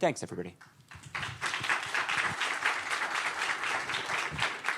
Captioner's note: audience applauding